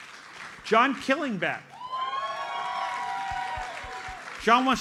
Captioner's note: audience applauds; audience cheers and applauds